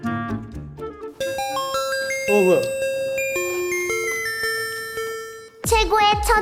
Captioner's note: the bell rings once again